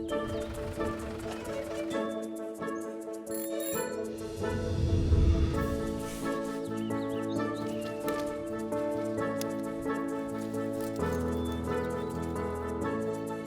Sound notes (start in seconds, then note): 3.1 bike bell rings; 9.3 clippers snipping; 10.5 birds chirping